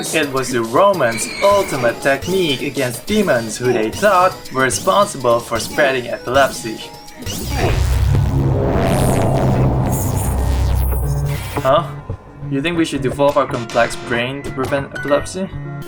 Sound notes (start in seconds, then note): 9.3 Myst whispers